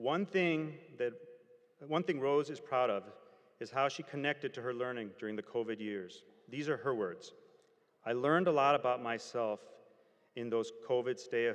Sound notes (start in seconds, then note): none